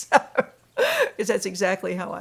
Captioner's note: laughs